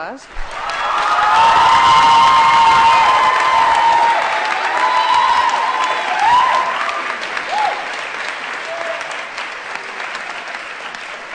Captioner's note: applause & Cheering